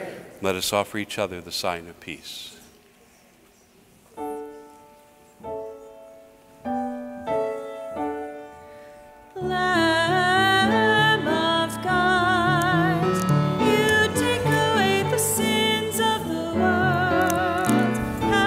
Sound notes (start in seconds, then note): 2.7 congregation murmurs; 4.1 piano music